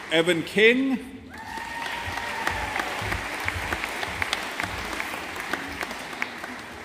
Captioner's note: audience applauding